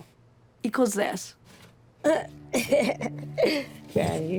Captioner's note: chuckles